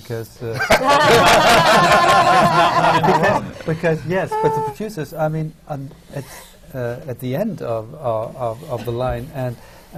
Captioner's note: laughter